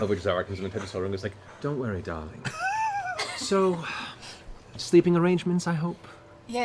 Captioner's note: laughter